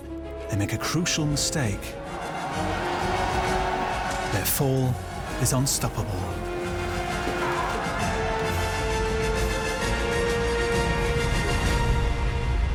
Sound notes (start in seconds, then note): 2.0 battle cries